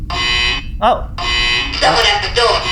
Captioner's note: persistent buzzer sound repeats